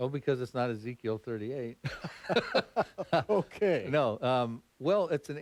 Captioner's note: laughter